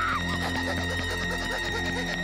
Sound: panting

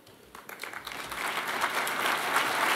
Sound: applause

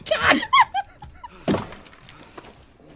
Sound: laughs

